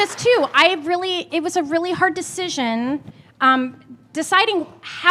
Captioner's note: applause